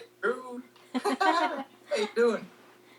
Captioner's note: laughing